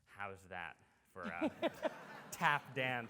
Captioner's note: audience laughs